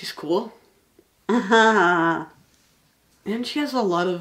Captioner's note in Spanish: Risas